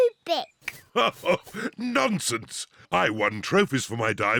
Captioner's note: laughs